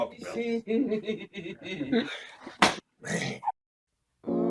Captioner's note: giggling